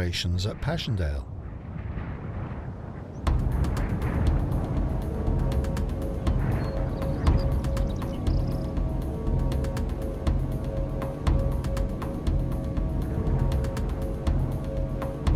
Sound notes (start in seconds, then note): 4.1 wind howls; 5.9 dramatic music